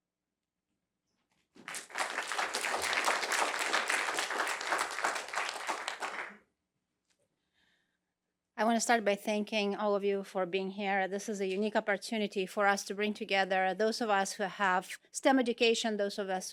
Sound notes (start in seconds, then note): 1.6 applause